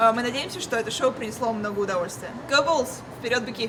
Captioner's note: speaks foreign language